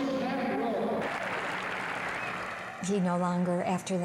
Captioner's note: applause